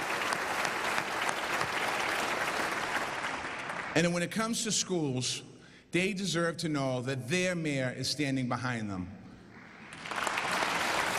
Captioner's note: applause